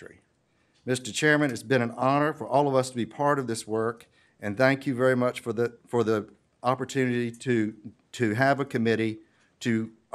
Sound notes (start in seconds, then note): none